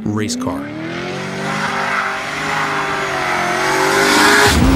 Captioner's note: engine buzzing